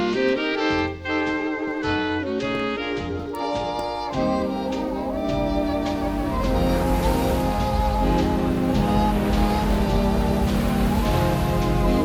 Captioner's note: The crashing waves grow louder, but the Foxtrot drones on into the night